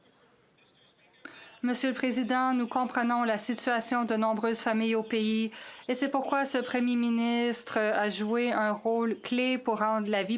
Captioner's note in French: voix de l'interprète